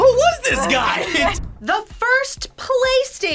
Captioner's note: laugh